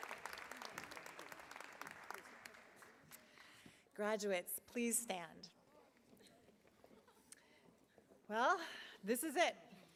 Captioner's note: applause